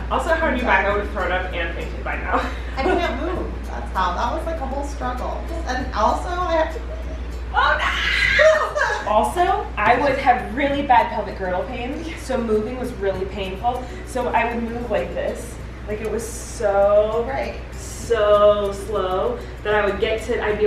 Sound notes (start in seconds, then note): 2.4 laughing